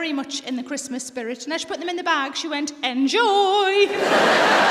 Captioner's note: sing-song voice; laughter